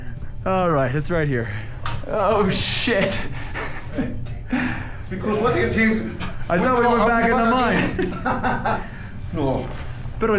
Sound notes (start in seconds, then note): 3.1 laughs; 8.1 laughs